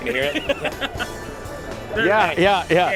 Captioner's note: laughs